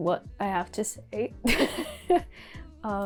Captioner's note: awkward laugh